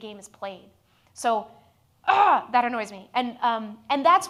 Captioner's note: groans